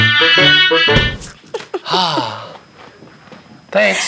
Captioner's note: laughs